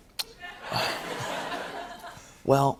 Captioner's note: laughter